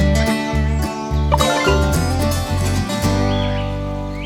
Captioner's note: notification